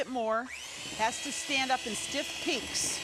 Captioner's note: mixer whirring